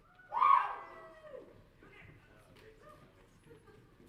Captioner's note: audience cheering